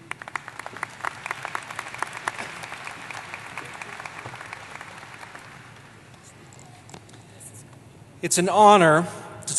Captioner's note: applause